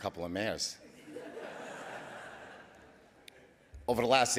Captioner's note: audience laughing